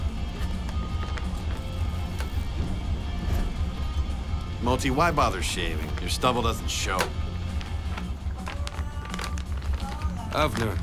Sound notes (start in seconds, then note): none